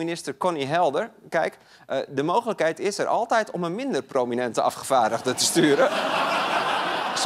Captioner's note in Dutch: gelach